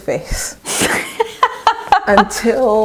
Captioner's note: laughs